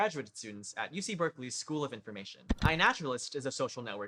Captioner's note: click